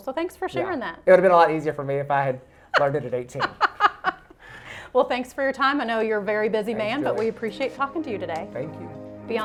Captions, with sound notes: So thanks for sharing that. - It would have been a lot easier for me if I had learned it at 18. - (laughs) Well, thanks for your time. I know you're a very busy man but we appreciate talking to you today. - Thank you.